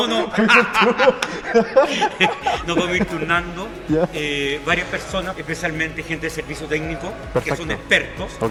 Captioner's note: laughs